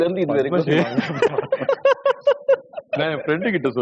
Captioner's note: laughter